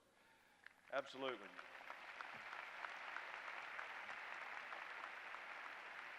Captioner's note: applause